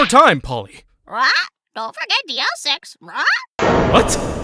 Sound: squawk; squawk!

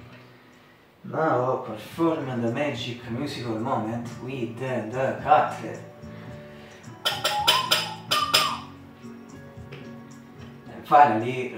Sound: whistle

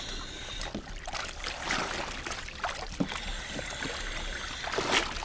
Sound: water splashing

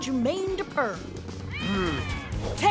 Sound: meowing

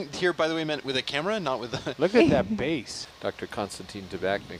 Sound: laughs

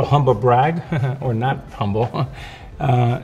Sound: laughs

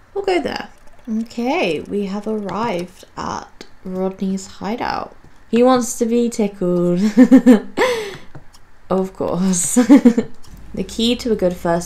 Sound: giggles

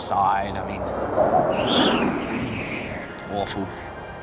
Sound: wind whistles

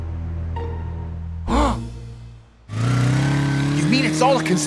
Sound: gasps

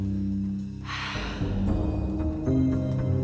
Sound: sighs

